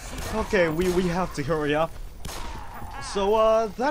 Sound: gunfire, zombie snarling

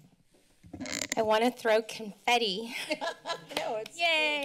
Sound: laughter

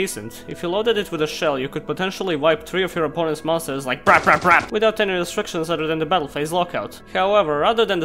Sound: brap

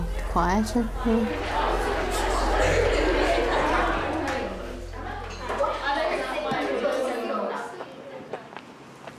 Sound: crowd noise

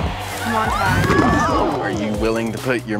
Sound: crowd cheering

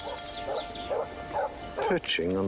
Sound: dog barking

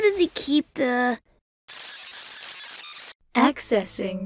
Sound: computer glitches randomly

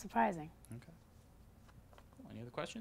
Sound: voiceover

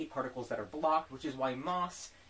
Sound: slap

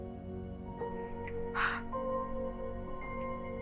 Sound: sighs

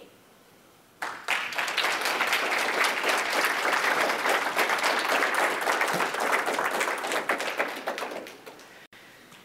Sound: applause

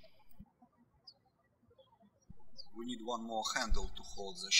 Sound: birds chirping

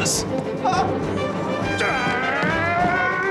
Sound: roars

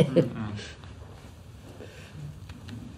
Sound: laughs

